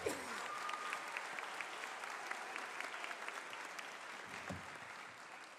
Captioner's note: applause